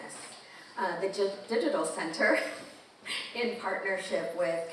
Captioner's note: presenter chuckling